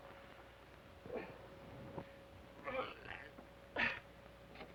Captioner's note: Sheriff groans